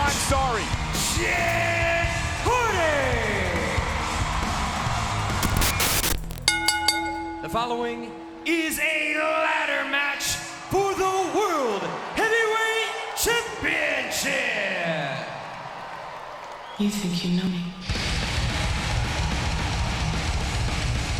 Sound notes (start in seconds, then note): 4.5 audience cheering and clapping; 5.4 screen hisses; 6.2 bell rings; 15.4 audience cheering and clapping; 18.1 upbeat rock music